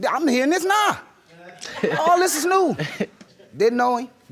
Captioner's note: laughing